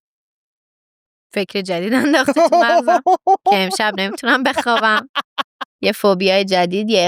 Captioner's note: laughs